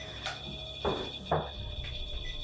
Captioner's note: REM-POD beeping